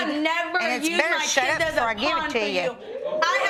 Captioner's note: audience react